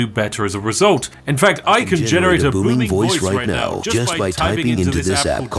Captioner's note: ai voice